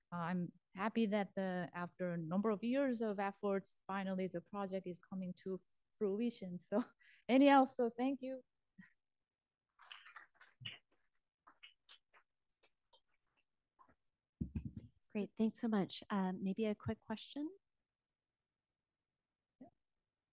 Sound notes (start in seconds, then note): 9.9 applause